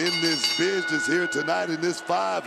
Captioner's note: bell rings